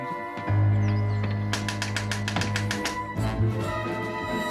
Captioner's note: knocking at the door